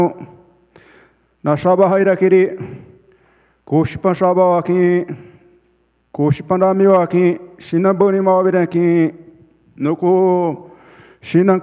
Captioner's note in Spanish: Ponente habla en portugués